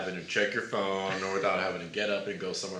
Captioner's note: laughs